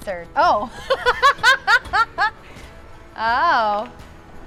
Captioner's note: laughs